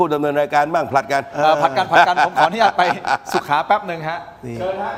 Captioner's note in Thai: เสียงหัวเราะ